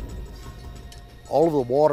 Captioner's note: rumble